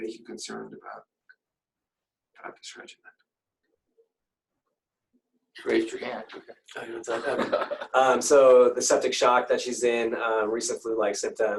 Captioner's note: laughter